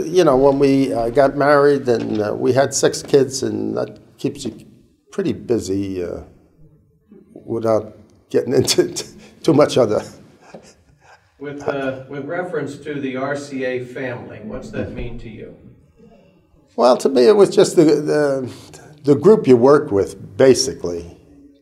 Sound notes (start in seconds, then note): 10.3 chuckle